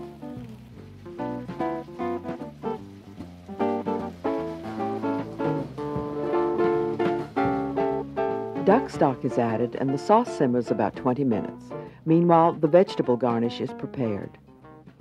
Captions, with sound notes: (food sizzling) Duck stock is added, and the sauce simmers about 20 minutes. Meanwhile, the vegetable garnish is prepared.